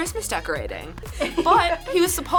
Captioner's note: laughs